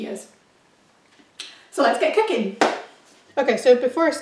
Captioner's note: claps